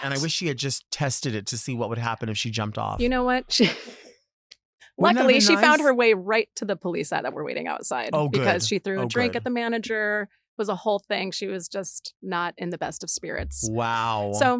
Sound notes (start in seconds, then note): 5.0 laughs